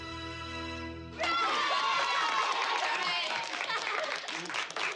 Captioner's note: CHEERlNG